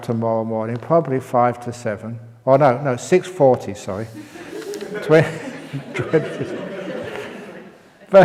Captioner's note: laughs